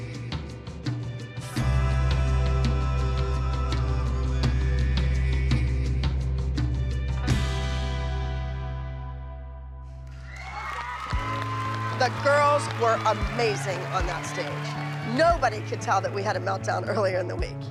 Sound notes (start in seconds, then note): 7.7 song ends; 10.0 applauding, cheering